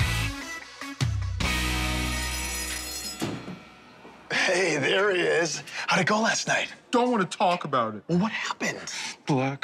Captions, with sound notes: [bell rings] Hey, there he is. How'd it go last night? Don't wanna talk about it. Well, what happened?